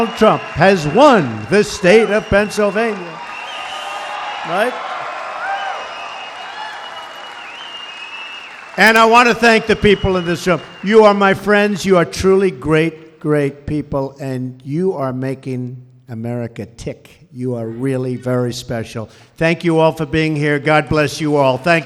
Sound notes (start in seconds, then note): 4.7 applause